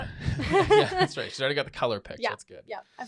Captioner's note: both laughing